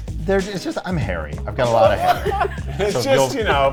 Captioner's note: all laughing